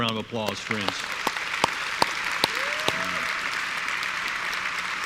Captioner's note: audience applauds